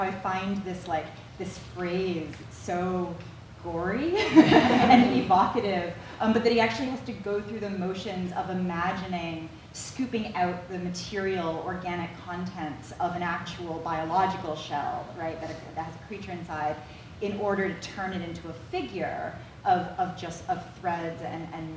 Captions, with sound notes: about how I find this phrase so gory. (everyone laughs) And evocative. But then he actually has to go through the motions of imagining scooping out the material, organic contents of an actual biological shell. Right, that has a creature inside. In order to turn it into a figure of just threads and lines.